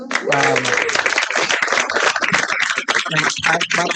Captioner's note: applause